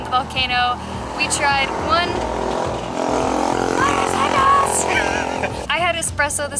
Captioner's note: laughter